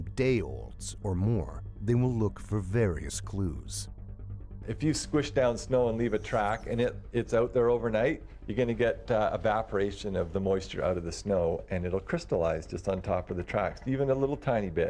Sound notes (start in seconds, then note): 7.0 voiceover